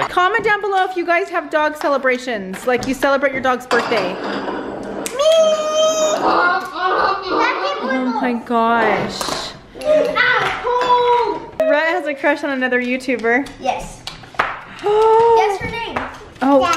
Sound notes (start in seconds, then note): 6.1 braying; 14.9 mom gasps